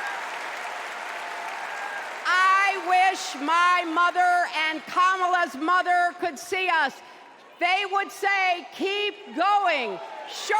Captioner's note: cheers and applause